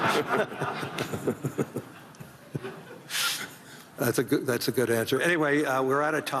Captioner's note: laughter